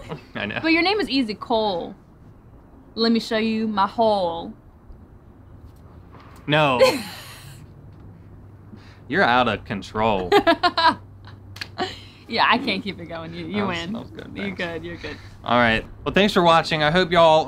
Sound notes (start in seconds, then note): 6.8 cracks up; 10.2 laughs; 11.5 hands slap